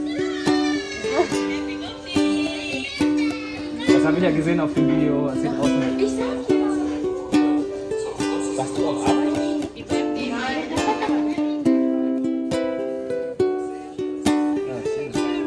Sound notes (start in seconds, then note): 6.0 speaking German; 11.9 background music